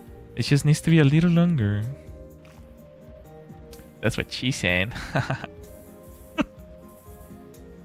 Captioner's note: laughter